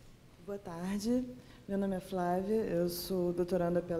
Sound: speaking portuguese

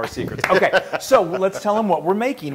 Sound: laugh

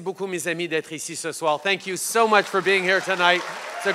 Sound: applause

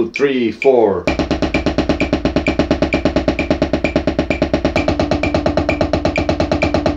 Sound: metronome continues ticking; drum beating

